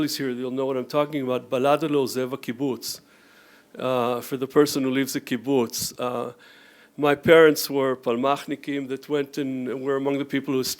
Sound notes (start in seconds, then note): 2.0 speaks Hebrew